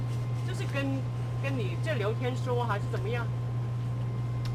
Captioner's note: mandarin